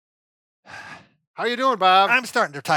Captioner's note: exhales